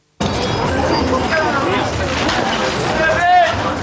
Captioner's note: street hubbub